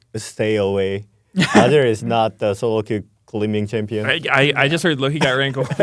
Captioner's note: laughs